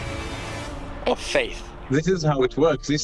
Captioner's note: voice breaking